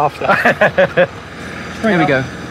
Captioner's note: laughing